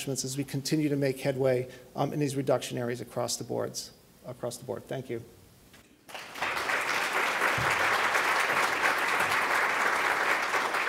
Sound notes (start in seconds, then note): 6.1 audience applauding